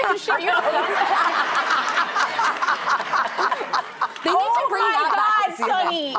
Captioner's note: laughing